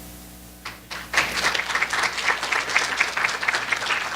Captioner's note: applause